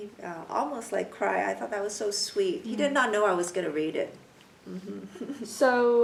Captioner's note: laughs